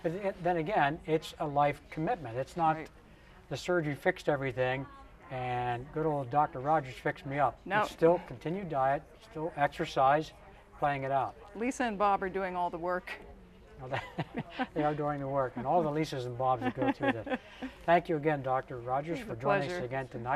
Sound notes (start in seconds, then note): 13.8 chuckles